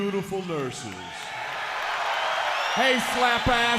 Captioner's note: crowd cheering